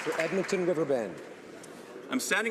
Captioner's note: some Applause